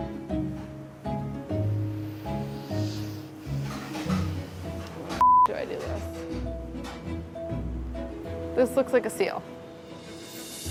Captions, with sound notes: How the [beeping] do I do this? This looks like a seal.